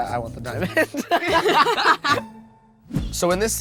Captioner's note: laughs